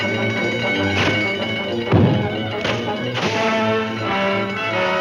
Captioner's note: alarm ringing; ice splattering